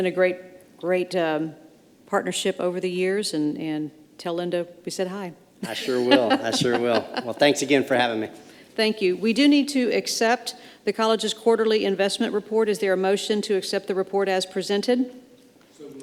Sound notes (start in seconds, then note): 5.6 laughs